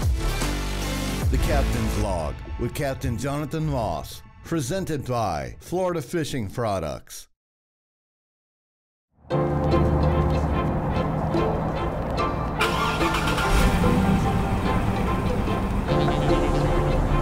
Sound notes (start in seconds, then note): 9.3 upbeat music; 12.8 car engine humming